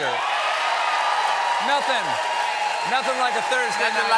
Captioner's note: cheers and applause